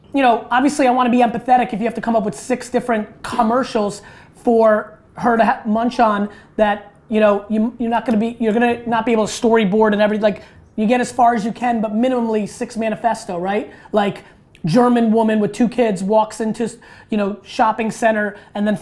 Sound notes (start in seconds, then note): none